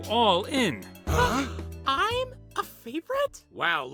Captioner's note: gasp